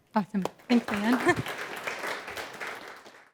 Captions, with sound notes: - Awesome. Thanks, Leann. (chuckles) (audience clapping)